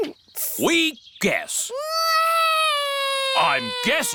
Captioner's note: alexander wails